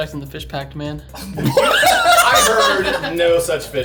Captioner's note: all laughing